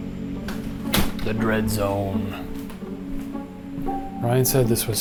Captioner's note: door clicking